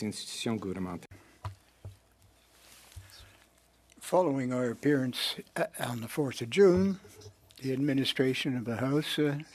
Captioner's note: speaking French